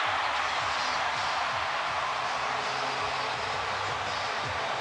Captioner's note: crowd cheering